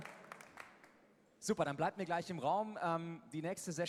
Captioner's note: applause